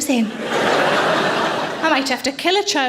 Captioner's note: audience laughing